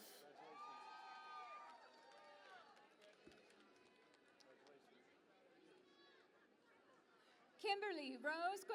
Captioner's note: cheering and Applause